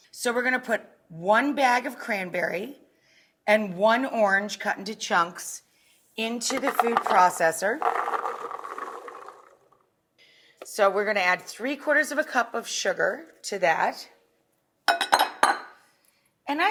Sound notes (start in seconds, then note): 6.4 cranberries clink in processor; 14.9 glass bowl clinks